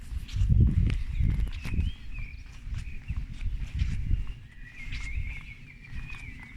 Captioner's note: birdsong